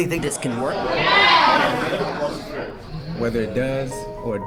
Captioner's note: crowd rumblings